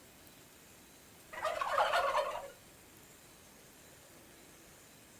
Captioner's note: bird gobbling